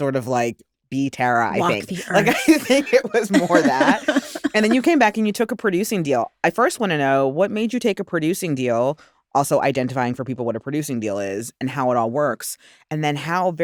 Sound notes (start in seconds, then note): 1.6 laughter